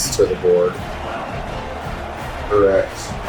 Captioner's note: crowd Noises